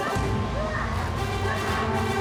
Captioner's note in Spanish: gritos y golpes